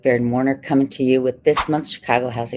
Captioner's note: text whooshing